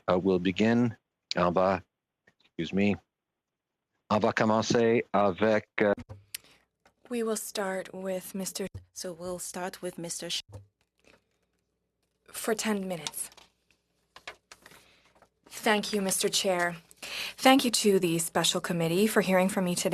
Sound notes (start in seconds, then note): 11.5 speaking French